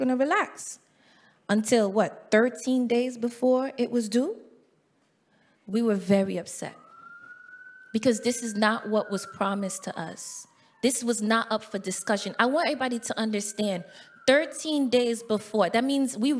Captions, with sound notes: So we're gonna relax until what? 13 days before it was due. We were very upset because this is not what was promised to us. (siren blaring) This was not up for discussion. I want everybody to understand, 13 days before.